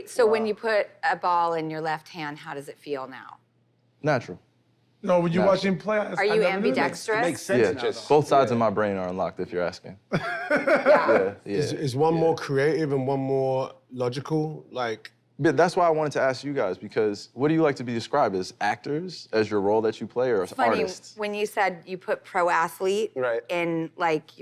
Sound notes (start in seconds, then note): 10.1 laughs